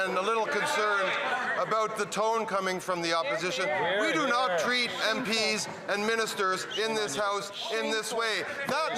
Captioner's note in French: voix de l'interprète